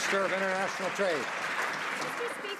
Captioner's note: some Applause